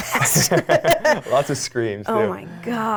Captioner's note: laughing